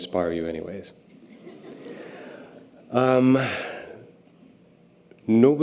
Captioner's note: audience laughter